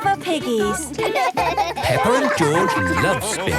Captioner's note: both laugh